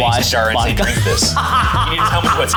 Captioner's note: laughs